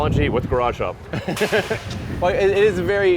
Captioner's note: laughs